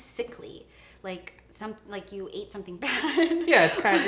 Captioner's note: laughs